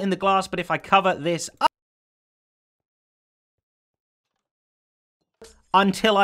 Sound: sound cuts out

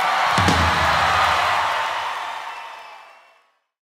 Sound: audience cheering

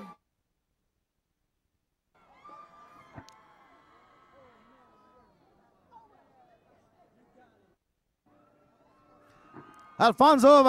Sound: cheering and Applause

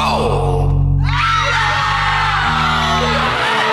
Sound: screaming

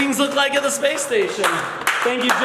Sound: applauding

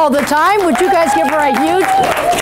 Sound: applause

